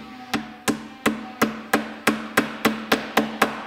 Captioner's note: hammering, sawing in the background